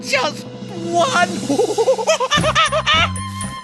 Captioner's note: monkey noises